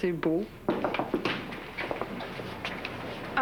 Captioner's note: On frappe à la porte